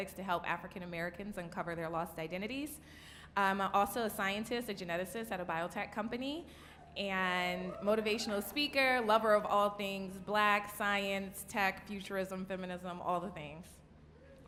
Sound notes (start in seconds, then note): 7.6 audience cheering